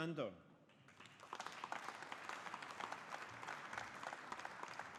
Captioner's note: audience applauding